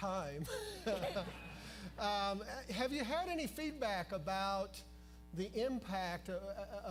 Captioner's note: laughter